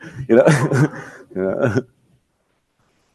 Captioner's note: laughs